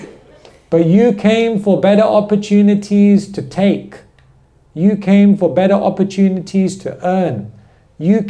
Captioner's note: laughter